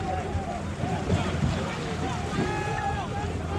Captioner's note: people shouting